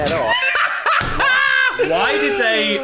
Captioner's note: laughs